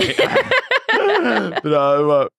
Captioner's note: both laugh